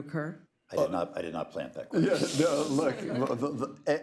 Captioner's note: laughter